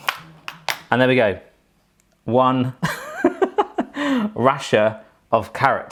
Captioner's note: chuckles